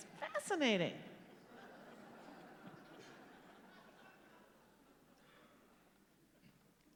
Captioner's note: laughter